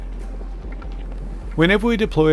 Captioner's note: wind blowing